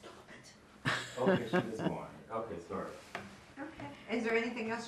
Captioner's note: laughing